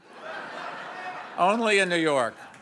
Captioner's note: audience laughs